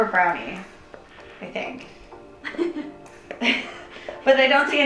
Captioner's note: laughing